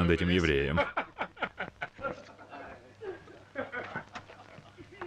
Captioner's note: laughing